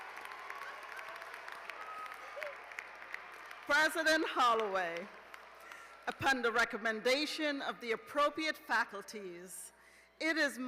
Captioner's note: cheers and applause